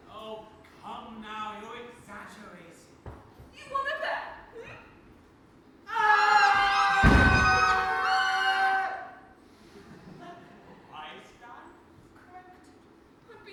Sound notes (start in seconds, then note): 5.9 mob screams